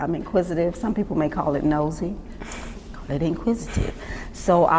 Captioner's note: laughs